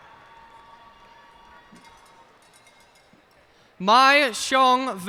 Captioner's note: cheers and applause